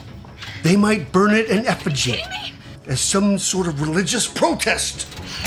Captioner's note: radio